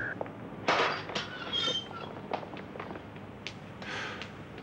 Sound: metal clanks

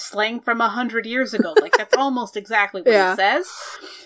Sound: laughs

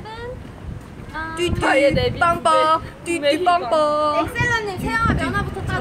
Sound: making honking sounds

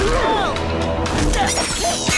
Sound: grunting

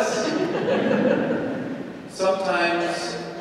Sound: congregation chuckles

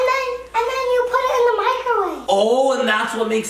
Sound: none

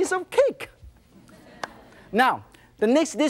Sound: audience laughs

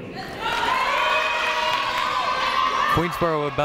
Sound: crowd cheering

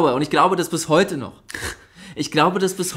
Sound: laughs

